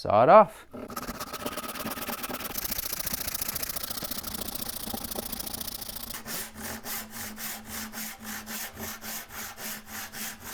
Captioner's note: scraping